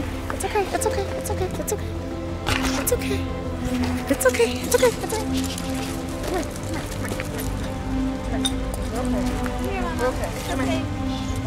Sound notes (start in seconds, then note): none